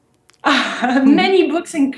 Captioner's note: laughs